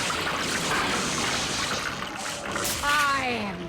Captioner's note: water gurgling